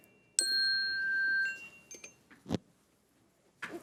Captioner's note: bell rings